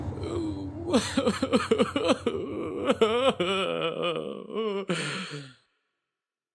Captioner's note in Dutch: huilende buurman